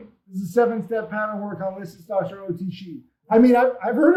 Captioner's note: speaks faintly